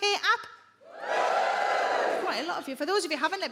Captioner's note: audience woos